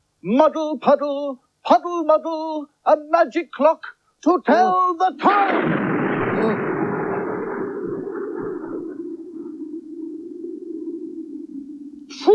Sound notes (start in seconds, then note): 5.3 sound Of Thunder